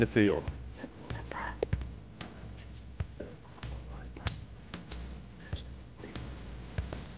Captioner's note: whispering